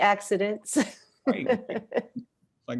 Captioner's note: laughs